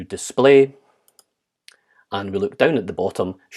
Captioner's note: keyboard clicks